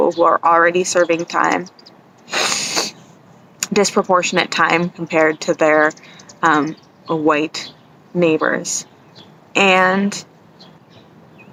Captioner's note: sniffles nose